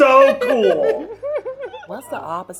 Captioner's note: laughing